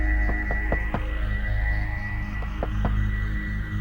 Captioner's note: person knocking